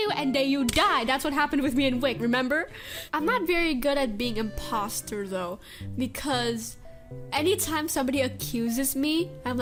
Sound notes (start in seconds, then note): 2.7 inhale